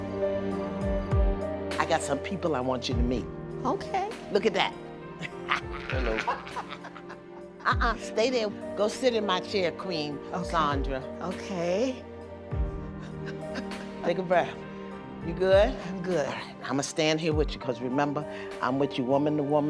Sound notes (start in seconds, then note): 5.2 laughter; 13.1 chuckles